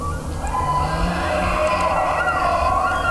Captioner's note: elk bugling